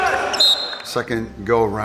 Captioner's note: coach whistles